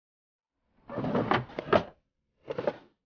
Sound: drawers banging

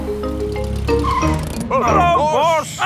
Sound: brakes squeal

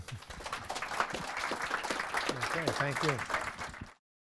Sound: applause

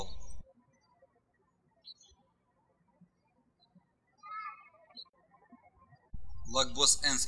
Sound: birds chirping

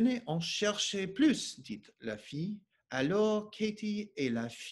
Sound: speaking French

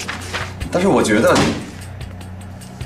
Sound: bang!

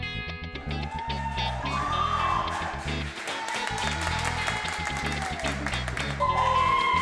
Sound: applause and Cheering

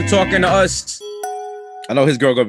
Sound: dinging sound

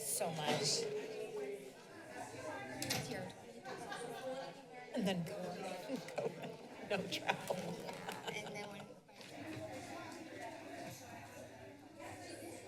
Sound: background conversations

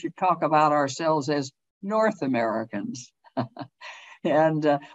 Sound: chuckles

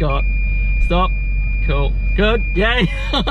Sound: car camera beeping

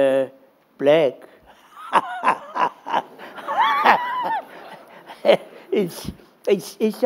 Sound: laughter

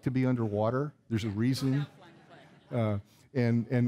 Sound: audience laughing

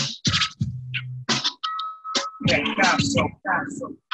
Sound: record scraping

